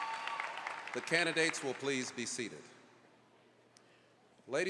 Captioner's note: applause